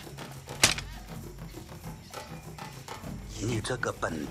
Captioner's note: sticks thud